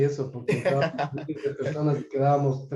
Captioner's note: laughs